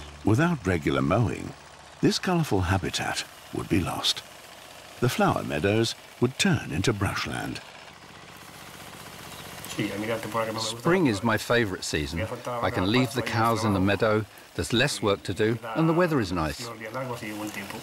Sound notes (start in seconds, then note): 9.2 he speaks Spanish